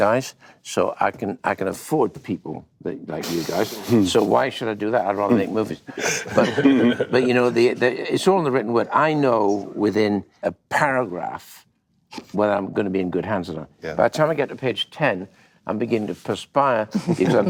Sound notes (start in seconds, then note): 5.9 laughter